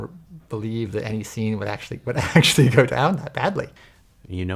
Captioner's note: chuckles